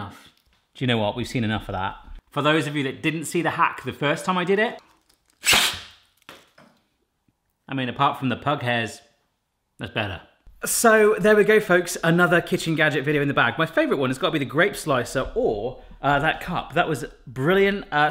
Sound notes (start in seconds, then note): 5.4 blows